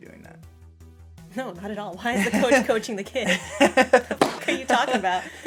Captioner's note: laughter; tennis ball sound